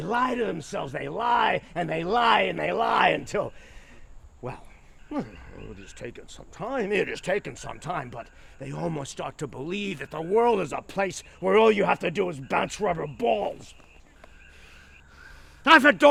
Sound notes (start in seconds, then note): 5.0 groans; 15.1 panting